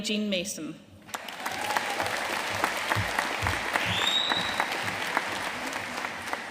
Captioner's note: audience cheering and applauding; attendee whistles